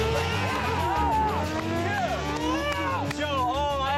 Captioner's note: cheering; engines roaring